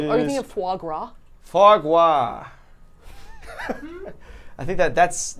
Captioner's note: laughing